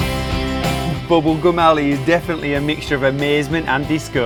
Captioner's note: voiceover